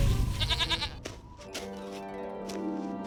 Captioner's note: bleats